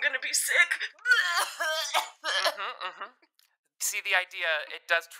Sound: fake vomits and coughs

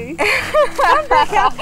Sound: laughing

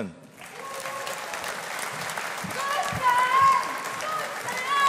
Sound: audience applauding

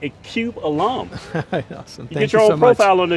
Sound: laughs

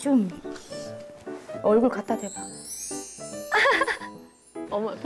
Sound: giggles

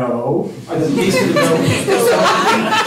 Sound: laughter

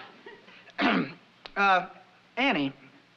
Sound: clears throat

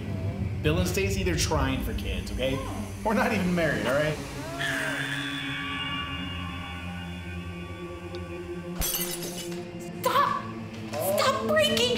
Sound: baby cries

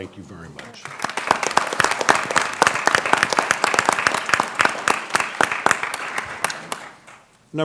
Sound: applause

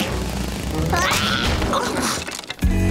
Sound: grunting

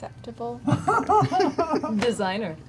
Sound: laughs

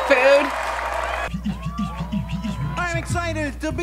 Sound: beatboxing

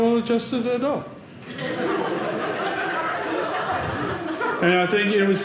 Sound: audience laughing

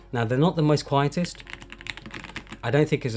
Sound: keyboard clicking

